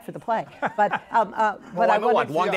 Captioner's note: laughs